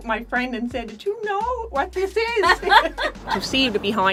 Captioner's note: laughter